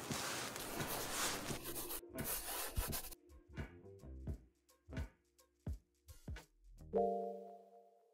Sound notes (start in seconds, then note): 0.0 chalk brushing; 3.7 muffled gentle music